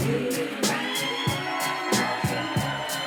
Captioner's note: cheering, applause